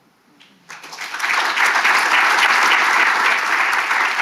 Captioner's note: audience applauding